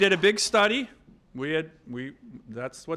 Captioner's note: applause